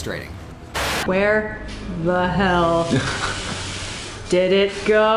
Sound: B: *laughs

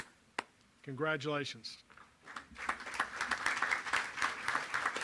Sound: applause

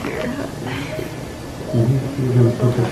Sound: monitor beeping

